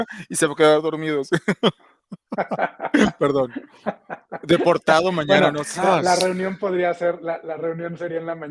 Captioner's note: laughs